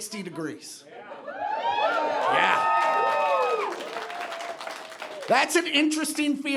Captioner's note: audience cheering and applauding